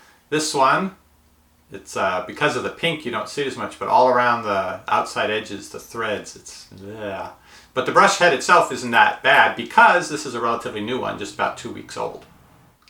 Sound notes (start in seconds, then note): 6.6 groaning in disgust